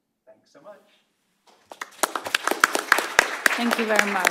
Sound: applause

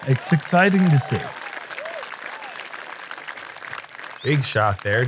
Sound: applause

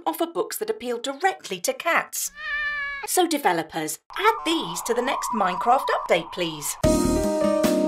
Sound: meow

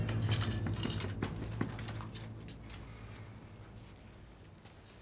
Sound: distant knocking continues, as things jangle in Hannah's search

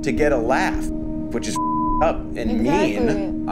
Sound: beep

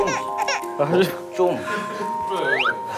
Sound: sob

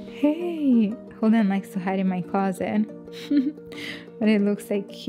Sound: giggles

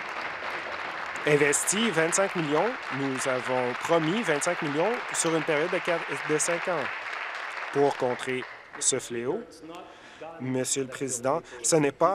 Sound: applause

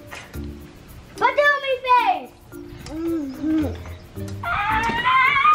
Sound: babbling gibberish

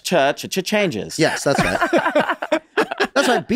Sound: laughs

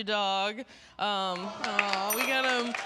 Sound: audience "awws"

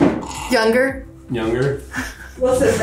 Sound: snerks

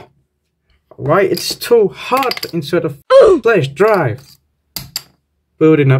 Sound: oof

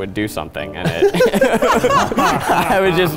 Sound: laughing

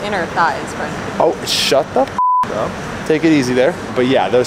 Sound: beep

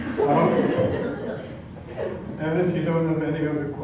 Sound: laugh

